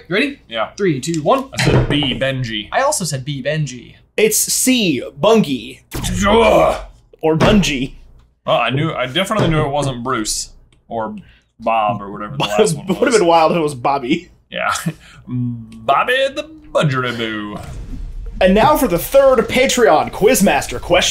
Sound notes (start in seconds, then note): 6.2 groans; 12.3 chuckling